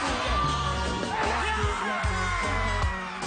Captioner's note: cheers and applause